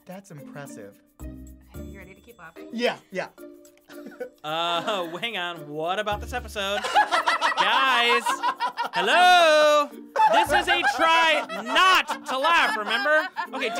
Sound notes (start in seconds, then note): 6.7 both laugh